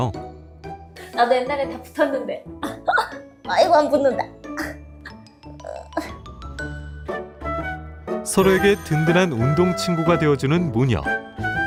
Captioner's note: voiceover